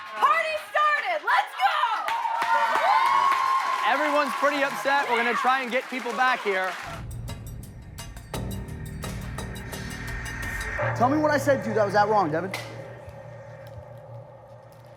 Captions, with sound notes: - Party started, let's go! (audience cheering) - Everyone's pretty upset, we're gonna try and get people back here. (suspense music) - Tell me what I said to that was that wrong, Devin.